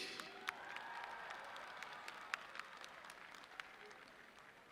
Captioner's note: audience cheering